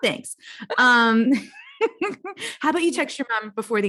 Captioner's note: laughs